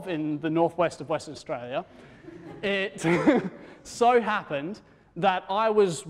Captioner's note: laughter; laughs